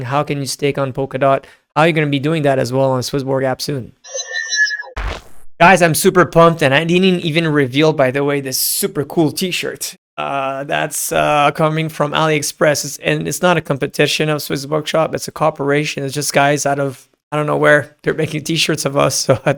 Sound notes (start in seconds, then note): 4.4 electric whooshing